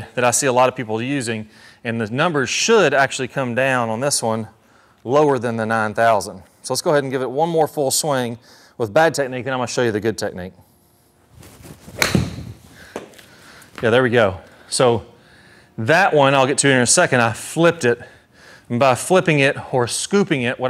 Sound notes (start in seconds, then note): 11.7 ball thwacks